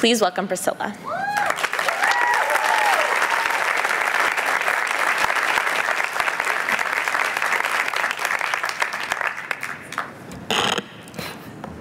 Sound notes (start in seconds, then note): 1.2 applause